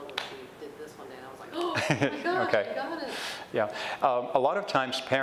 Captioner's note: gasps